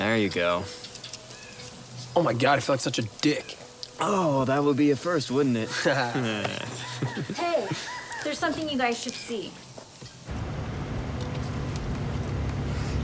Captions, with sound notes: - There you go. Oh my God, I feel like such a dick. - Oh, that would be a first, wouldn't it? (laughing) - Hey, there's something you guys should see.